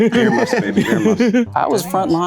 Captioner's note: person chuckles; group laughing